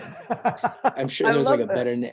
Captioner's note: laughs